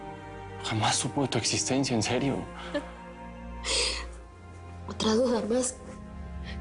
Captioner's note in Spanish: Ella llora